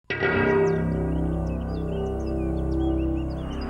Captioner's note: birds chirping; dissonant music